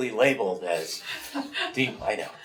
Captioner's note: laughs